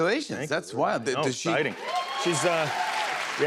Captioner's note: cheers and applause